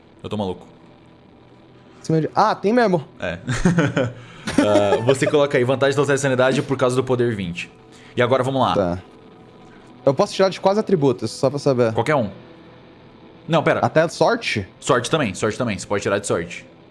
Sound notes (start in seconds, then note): 4.4 laughs